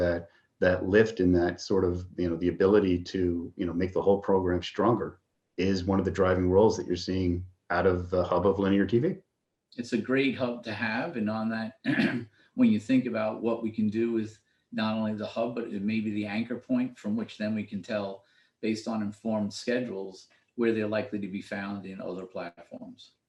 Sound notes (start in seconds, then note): 11.6 cough